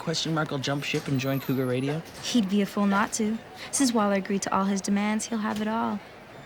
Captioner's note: none